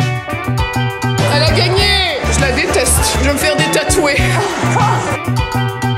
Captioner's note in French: rires